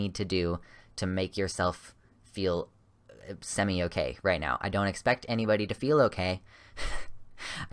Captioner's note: slight laugh